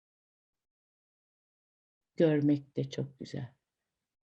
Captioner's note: silence, waiting